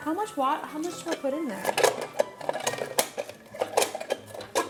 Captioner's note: eggs rumbling